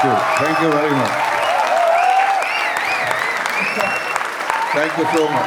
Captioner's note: crowd applauding